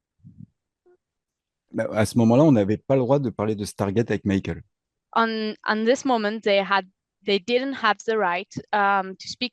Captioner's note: translating from French